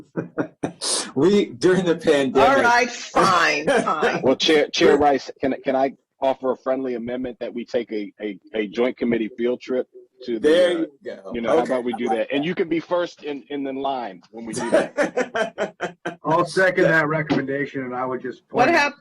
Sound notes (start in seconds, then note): 5.9 laughter